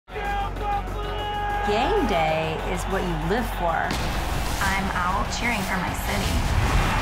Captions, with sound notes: (crowd noise) - Game Day is what you live for. I'm out cheering for my city.